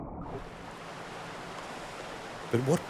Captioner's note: waves splash